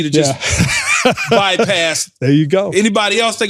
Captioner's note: laughter